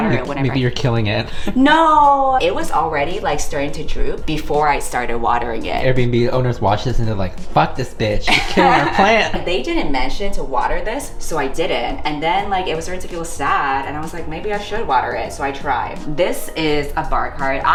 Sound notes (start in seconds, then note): 8.2 laughs